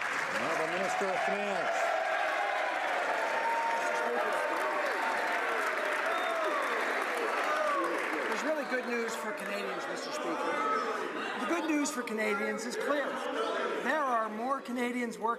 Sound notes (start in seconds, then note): 2.1 some Applause; 6.0 some Applause